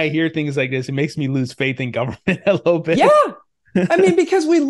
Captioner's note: laughs